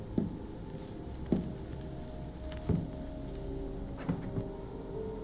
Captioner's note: footsteps pounding